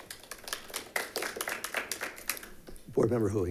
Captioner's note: members clapping